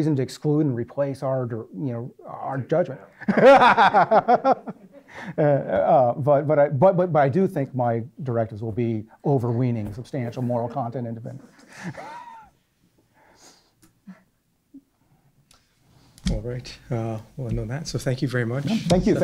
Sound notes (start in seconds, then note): 3.2 laughing; 16.2 voiceover